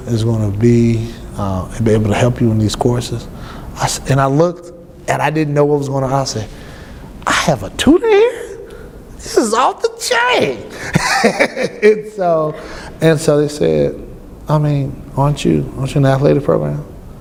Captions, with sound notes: "is going to be able to help you in these courses?" And I looked, and I didn't know what was going on. I said, "I have a tutor here?!" "This is off the chain!"(laughs) And so she said, "Aren't you in the athletic program?"